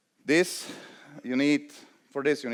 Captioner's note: none